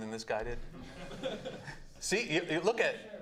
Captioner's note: laughing